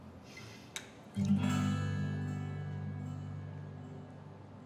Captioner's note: AJ sighing